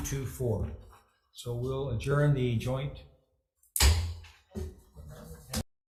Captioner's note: gavel thuds